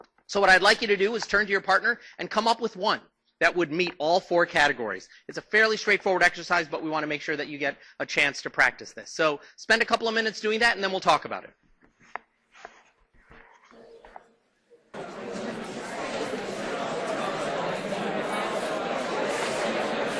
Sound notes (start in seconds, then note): 14.9 class Chatter